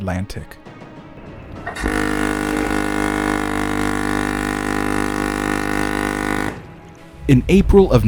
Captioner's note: ship's horn bellows loudly with an echo